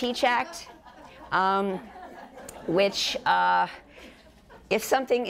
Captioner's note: audience laughter